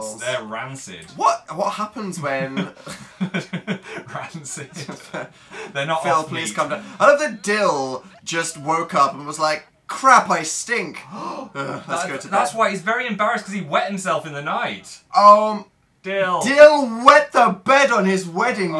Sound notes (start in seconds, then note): 3.6 laughs; 11.0 gasp